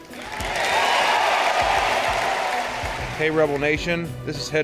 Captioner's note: cheering